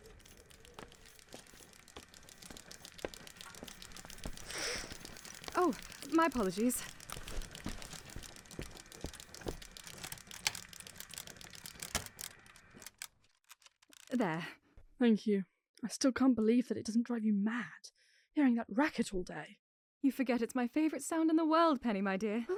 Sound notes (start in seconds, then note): 2.3 automata grow louder; 9.3 several clicks